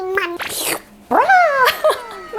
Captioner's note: slurping